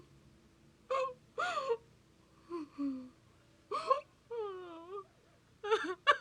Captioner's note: sobbing